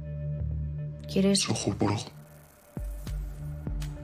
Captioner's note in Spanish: voz masculina distorsionada